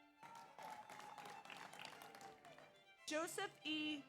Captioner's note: audience applauds; audience cheers